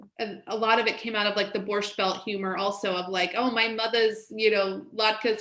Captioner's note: in Brooklyn accent